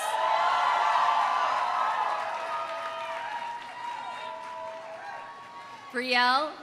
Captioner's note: audience cheering; audience applauding